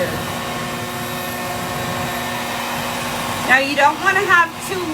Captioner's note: hair dryer whirs continues